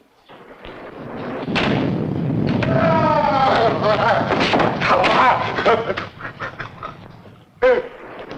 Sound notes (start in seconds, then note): 1.4 thunder rumbling; 2.7 Andy screams; 3.9 Andy stammering